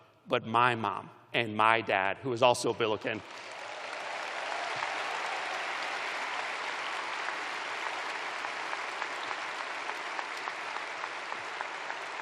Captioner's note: applause